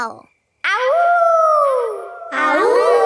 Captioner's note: howling; kids howling